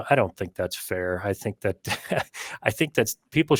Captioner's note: chuckles